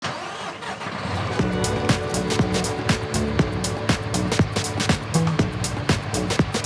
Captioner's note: engine starts; engine revving; upbeat techno music begins